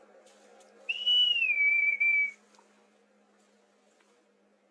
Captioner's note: killer whistles